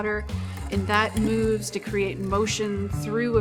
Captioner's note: machinery whirring